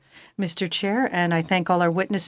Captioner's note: speaking French